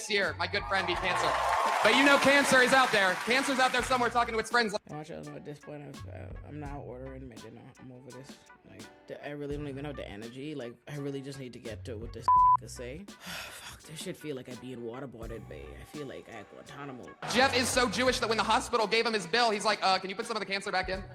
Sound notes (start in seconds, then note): 12.2 beep